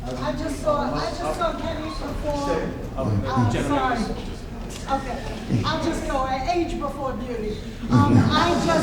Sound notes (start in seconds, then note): 2.1 male stammers; 7.9 laughing